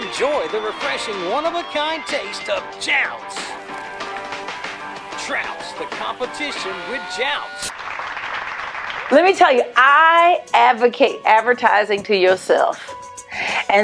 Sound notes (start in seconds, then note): 8.3 people clapping